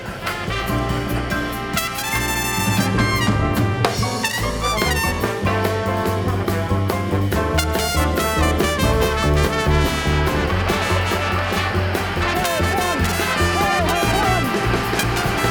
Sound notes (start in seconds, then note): 0.2 exciting jazz music; 10.2 audience cheering